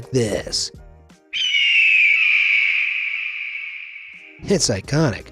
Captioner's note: eagle screeches